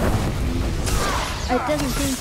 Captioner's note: gunshots